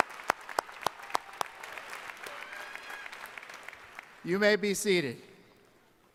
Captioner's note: applause